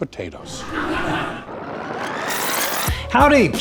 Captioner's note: laughing